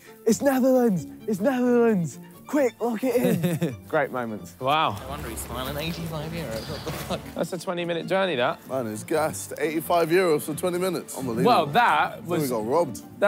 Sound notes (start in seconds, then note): 3.0 laughing